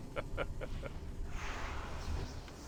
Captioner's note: laughing